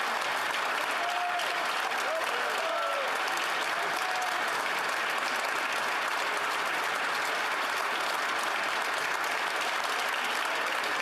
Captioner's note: applause